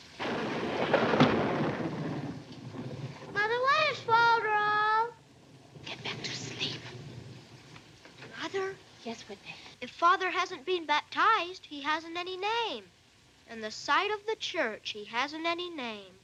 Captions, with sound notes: [thunder crashing] Mother, what is folderol? [whispers] Get back to sleep. - Mother? - Yes, Whitney. If father hasn't been baptized he hasn't any name. In the sight of the church, he hasn't any name.